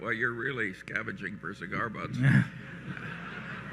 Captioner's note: laughter